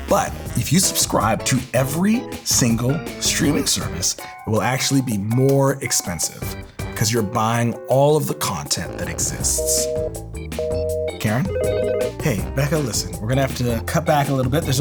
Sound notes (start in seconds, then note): 9.6 busy signal; 10.5 phone rings